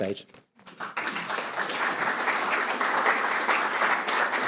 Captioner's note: audience applauding